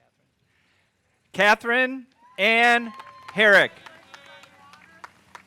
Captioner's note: audience cheering